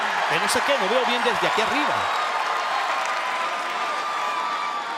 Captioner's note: crowd cheering